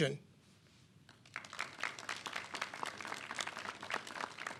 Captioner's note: clapping